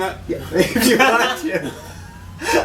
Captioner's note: laughter